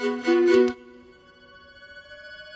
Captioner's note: click